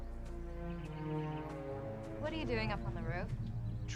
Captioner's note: none